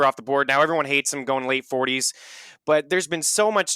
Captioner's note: inhales